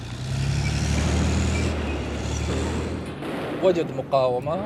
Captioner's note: vehicle engine rumbling; speaking in Arabic